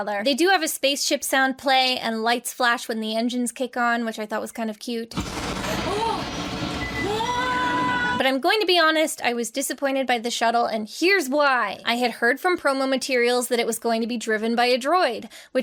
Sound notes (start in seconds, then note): 5.2 spaceship sound playing; 6.8 wails excitedly